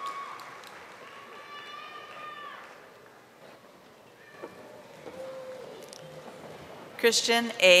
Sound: audience cheering

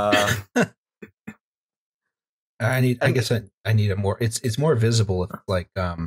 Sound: laughter

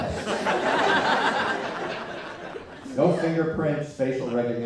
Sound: laughter

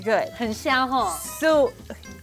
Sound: speaking in mandarin

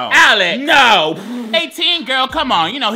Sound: laughs

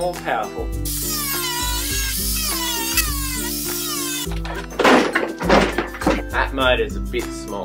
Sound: angle grinder noise

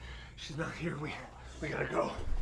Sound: exhausted

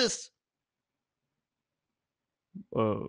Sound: awkward silence

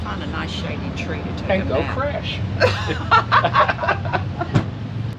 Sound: both laugh

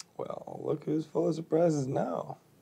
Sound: none

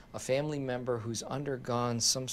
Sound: none

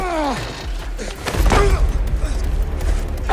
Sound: grunting

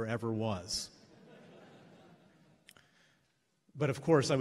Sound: laughs

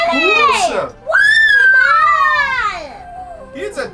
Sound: cheering

